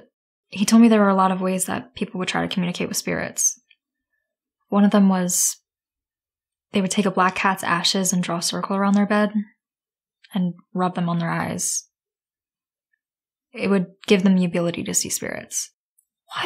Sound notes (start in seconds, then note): none